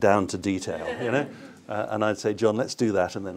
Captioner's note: laughter